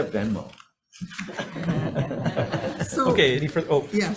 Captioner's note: all laughing